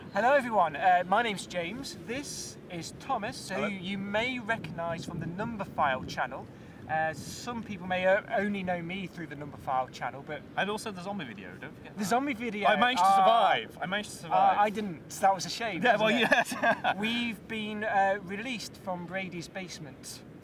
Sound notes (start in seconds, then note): 15.9 laughing